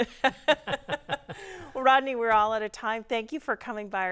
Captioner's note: laughing